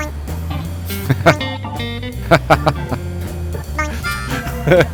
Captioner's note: laughter